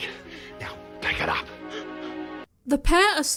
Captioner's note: panicked noises